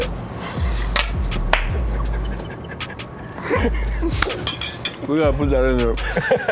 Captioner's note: laugh